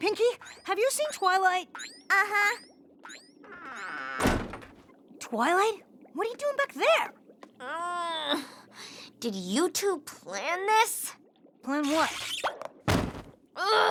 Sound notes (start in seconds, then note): 3.0 creak!; 7.0 groans